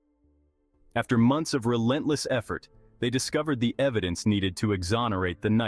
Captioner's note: voice-over